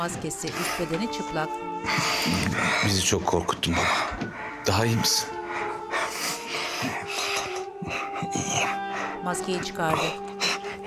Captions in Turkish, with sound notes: (Nefes sesi) Bizi çok korkuttun baba, daha iyi misin? (Hızlı soluma sesi) İyiyim.